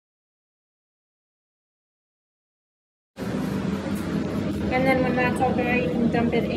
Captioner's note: vent sounds